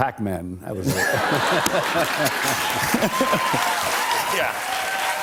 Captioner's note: laughter and applause